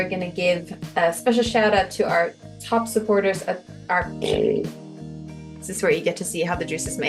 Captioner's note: stumbles, blows raspberry